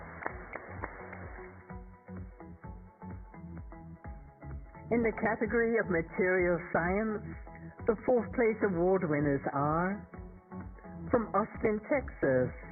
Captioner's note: applause